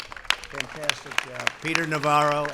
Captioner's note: applause